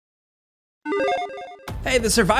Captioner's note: logo chiming